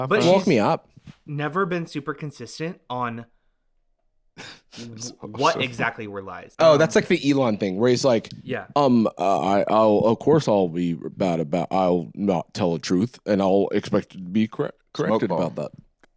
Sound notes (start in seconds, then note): 8.8 stammering